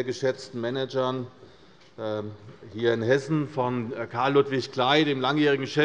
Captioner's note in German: none